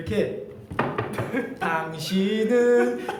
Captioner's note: knocks